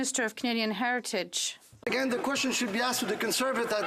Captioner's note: some Applause